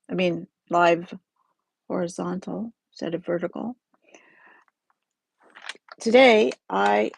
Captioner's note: oops the crinkly paper noise